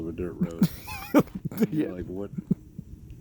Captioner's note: laughing